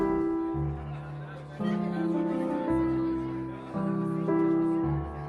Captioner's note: diners chattering